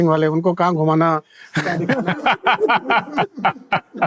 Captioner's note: all laugh